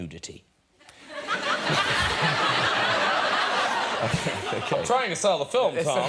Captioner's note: audience laughing